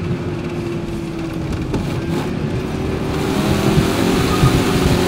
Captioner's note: engine humming continues